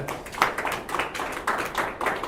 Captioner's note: applause